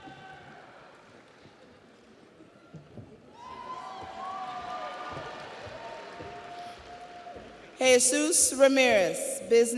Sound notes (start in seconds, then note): 3.4 audience cheers; 3.5 audience applauds